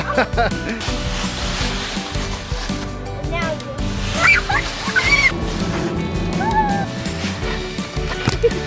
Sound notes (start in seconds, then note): 0.0 laughs; 1.4 leaves rustling; 4.3 screams